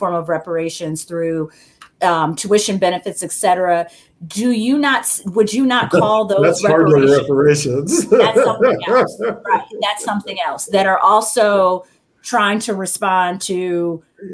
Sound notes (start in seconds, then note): 7.8 chuckle